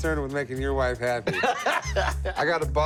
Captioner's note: laughs